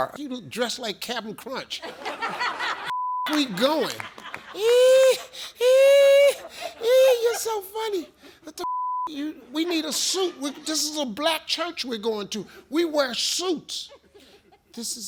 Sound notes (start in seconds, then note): 1.8 audience laughs; 2.9 beep; 3.2 audience laughs and claps; 8.6 beep